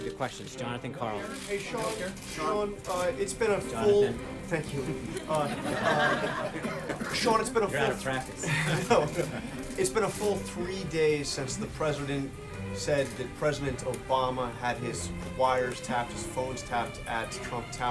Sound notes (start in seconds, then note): 4.7 reporters laugh